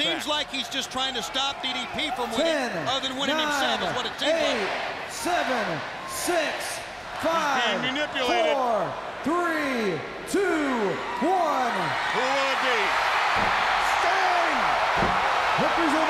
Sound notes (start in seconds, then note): 7.0 crowd cheering; 13.9 crowd cheering